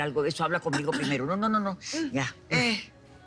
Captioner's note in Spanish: Carraspea